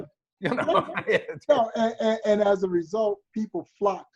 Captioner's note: laughs